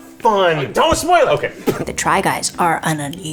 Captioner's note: laughs